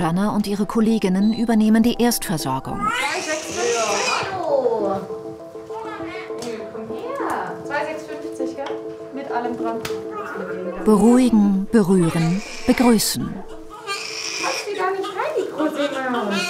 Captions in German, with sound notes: und ihre Kolleginnen übernehmen die Erstversorgung. (Das Baby schreit, Zureden) 2650, gell, mit allem dran. Beruhigen, berühren, begrüßen. (Baby schreit.) Die kann schreien, die Maus.